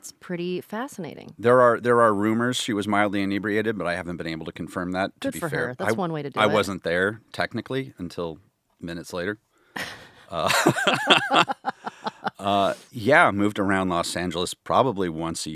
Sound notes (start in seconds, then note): 9.8 laughing